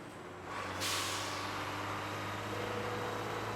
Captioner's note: engine revs